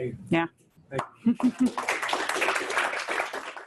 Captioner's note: applause